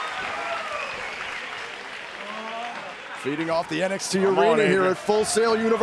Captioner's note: crowd cheering